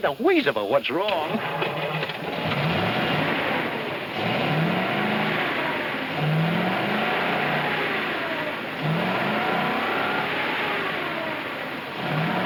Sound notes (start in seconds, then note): 2.4 engine revs